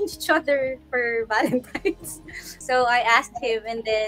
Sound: laughing

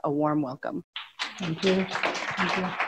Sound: audience applauds

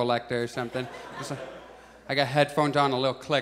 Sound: audience chuckles

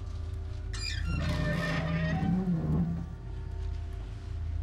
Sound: door creaks

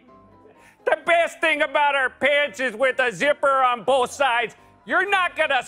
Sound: none

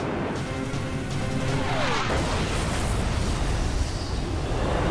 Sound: explosion

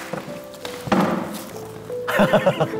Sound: laughing

